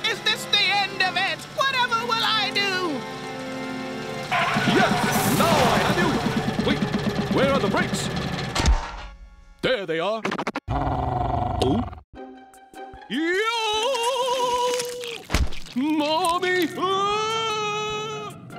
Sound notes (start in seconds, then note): 3.8 brakes screech; 8.0 clanks; 10.7 growls; 10.7 gulps